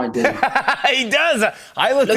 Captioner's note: laughs